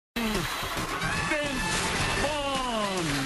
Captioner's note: cheers and applause